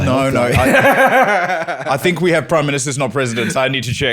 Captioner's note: laughter